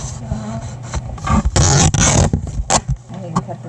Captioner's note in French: déchirure du ruban adhésif